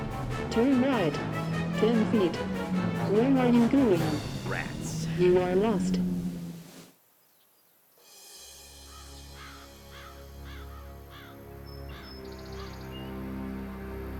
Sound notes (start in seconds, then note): 6.4 birds squawking; 6.4 sinister music